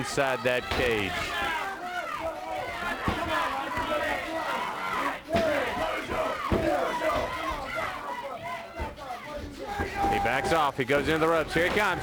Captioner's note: crowd chatter